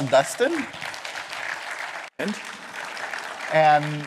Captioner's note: applause